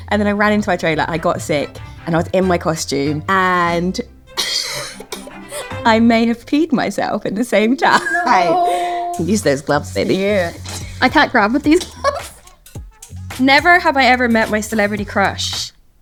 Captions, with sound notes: And then I ran into my trailer. And I got sick and I was in my costume. And [laughs] I may have peed myself at the same time. - No! - Use those gloves, baby. - Yeah. I can't grab with these gloves. Never have I ever met my celebrity crush.